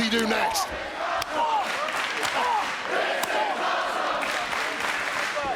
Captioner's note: crowd chants "This is awesome"